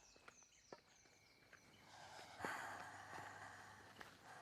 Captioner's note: birds chirping